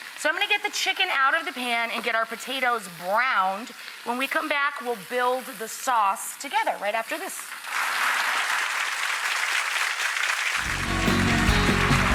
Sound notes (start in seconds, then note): 7.7 audience applauding